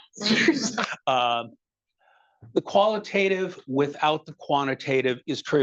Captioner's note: attendees chuckling